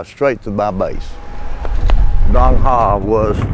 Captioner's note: flag flapping